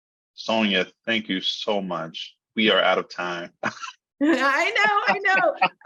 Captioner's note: laughing